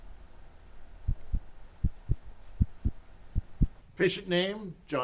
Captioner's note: heart beats